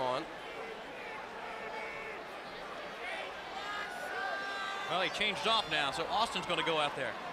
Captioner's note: crowd chatter